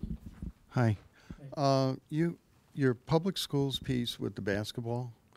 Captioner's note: voiceover